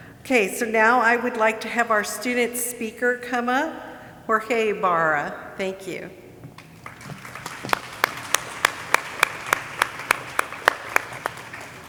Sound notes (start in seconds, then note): 6.8 audience applauding